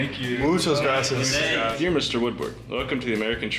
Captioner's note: speaks in foreign language